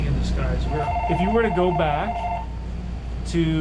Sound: phone ringing

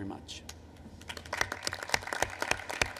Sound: applause

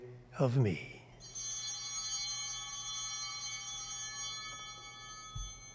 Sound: bell ringing

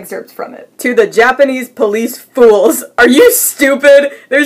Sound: while laughing

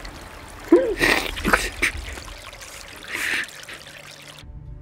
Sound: Arthur gasps, frightened, as he sees the water coming in

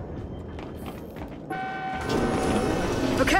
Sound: car horn

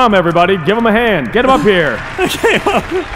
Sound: laughs

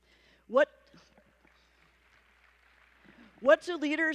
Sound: applause

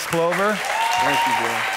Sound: congregants cheering

